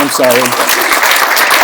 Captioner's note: applause